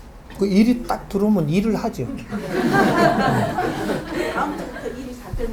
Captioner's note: audience Laugh